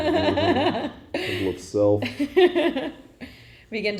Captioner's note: laughing